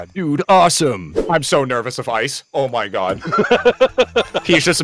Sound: laughter

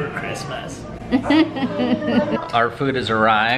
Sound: laughter

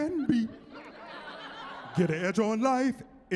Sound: laughing

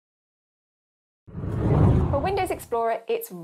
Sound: whooshing

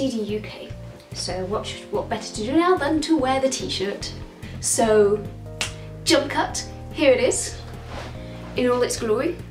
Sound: clicks fingers

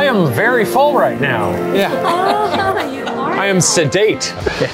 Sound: women laugh

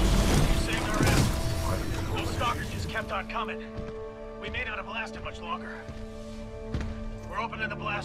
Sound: radio

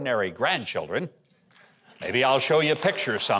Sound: audience claps

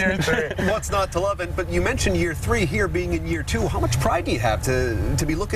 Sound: laughter

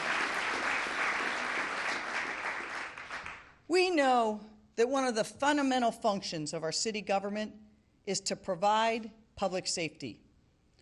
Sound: applause

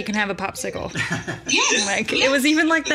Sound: laughs

